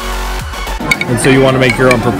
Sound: intense dance music continues; students chattering

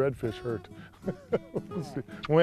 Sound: laughter

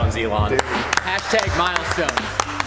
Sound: clapping

